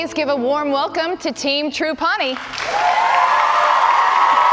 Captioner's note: cheers and applause